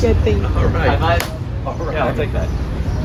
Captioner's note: clap